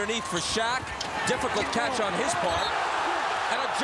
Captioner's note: whistle blows